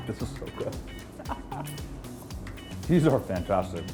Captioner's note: laughs